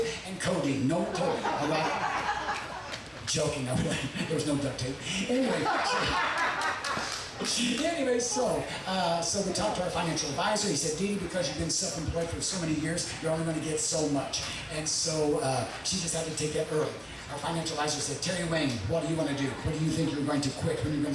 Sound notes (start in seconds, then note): 0.9 audience laughing; 4.9 audience laughing